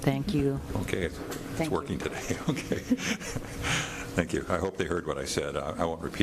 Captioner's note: chuckling